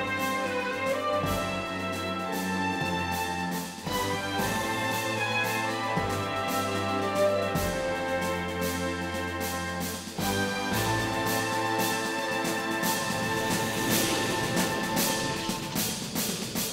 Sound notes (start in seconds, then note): none